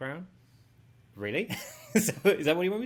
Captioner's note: laughing